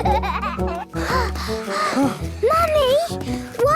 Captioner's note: children giggling; panting